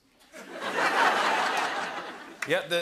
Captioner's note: laughter